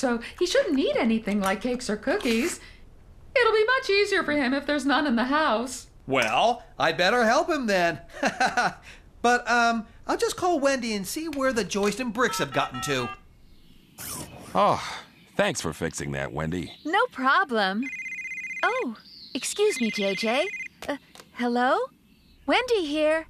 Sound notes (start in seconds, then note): 13.3 dials Cell Phone; 17.8 cell Phone Rings